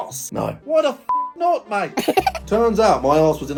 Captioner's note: beep